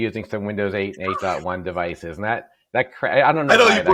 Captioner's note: laughs